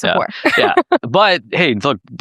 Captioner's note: laughs